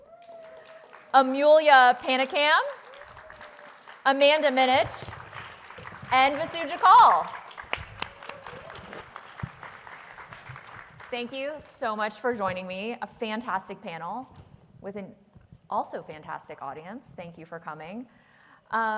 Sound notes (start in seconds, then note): 7.0 applause